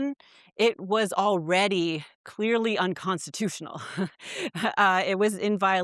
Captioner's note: chuckles